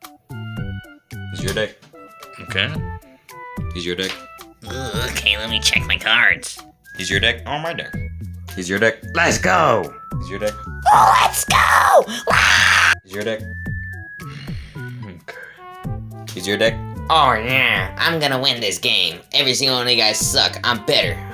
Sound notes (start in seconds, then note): 10.8 proceeds to scream his lungs out; 14.2 A small grunt